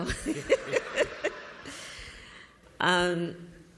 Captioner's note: laughter